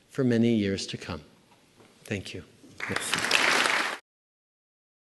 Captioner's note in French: Applaudissements